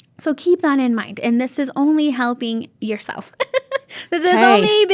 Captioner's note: laughs